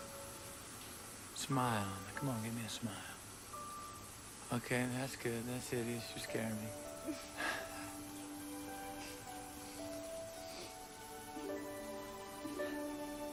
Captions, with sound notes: Smile. Come on, give me a smile. Okay, that's good. That's it. You're scaring me. (Andie and Ben laugh)